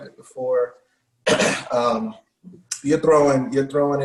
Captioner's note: clears throat